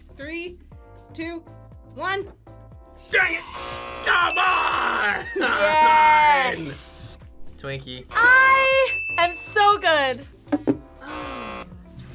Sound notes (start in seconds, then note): 3.3 whispers; 3.4 buzzer; 11.0 buzzer